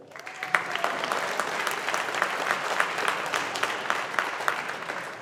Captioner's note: audience applauding